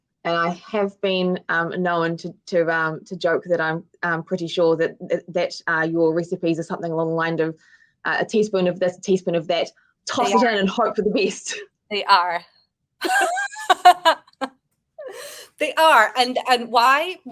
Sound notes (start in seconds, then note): 14.9 woman laughing